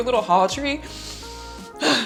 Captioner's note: deeply inhaling; sharp exhaling